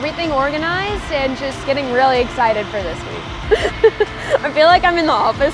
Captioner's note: laughing